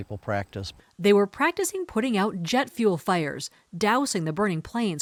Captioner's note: voice-over